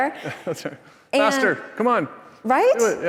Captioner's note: laughs